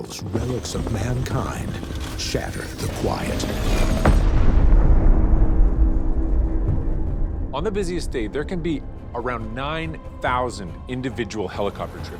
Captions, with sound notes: relics of mankind shatter the quiet. [loud explosion] - On the busiest day, there can be around 9,000 individual helicopter trips